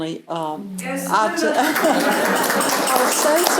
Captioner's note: laughter and applause